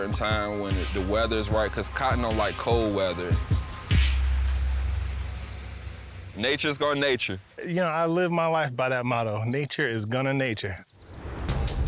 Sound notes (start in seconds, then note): 4.3 engine grinding